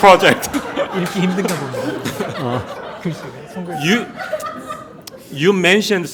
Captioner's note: speaking in Korean